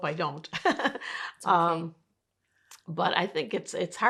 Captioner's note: laughing